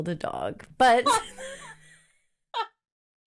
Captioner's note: laughs